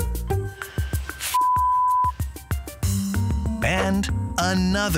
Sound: beep

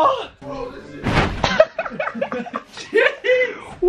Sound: laughing

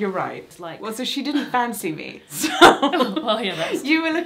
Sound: she laughs

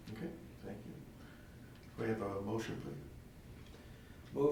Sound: none

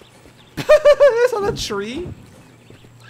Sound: laughs

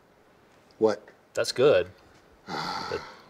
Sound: sighs

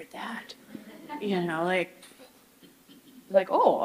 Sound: audience chuckles

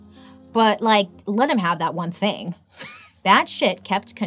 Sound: laughs

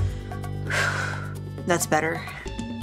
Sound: both exhale

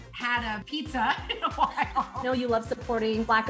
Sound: laughs

